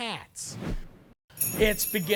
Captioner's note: air whooshing